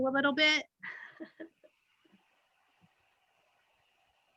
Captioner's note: giggles